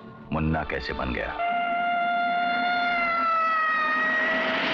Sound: police siren blares

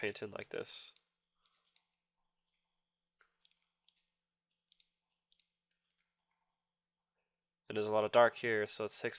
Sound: click sounds

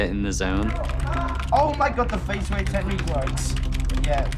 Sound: shouting on headset

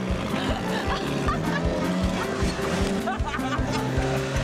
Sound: laughs

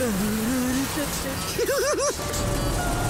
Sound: giggling

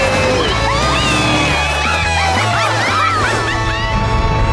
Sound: laughing

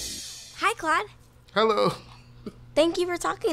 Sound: laughs

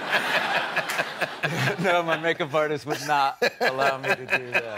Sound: laughter

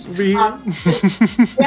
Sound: laughs

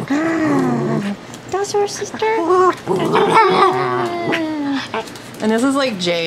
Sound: little dog is play-growling

